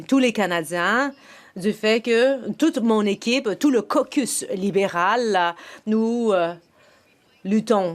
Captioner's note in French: voix de l'interprète